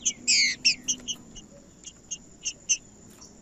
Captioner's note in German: trinca ferro cantando